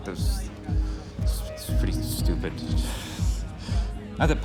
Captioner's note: laughs